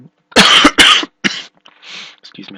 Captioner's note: coughing